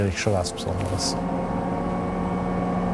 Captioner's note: dissonant whirring